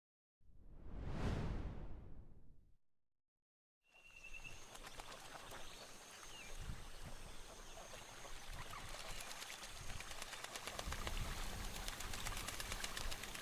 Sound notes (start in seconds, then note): 4.4 insects chirping; 10.4 ducks flapping